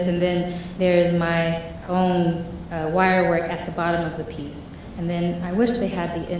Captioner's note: none